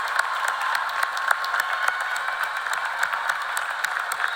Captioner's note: cheers and applause